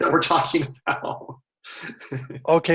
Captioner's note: laughter